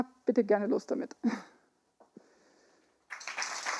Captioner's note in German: Applaus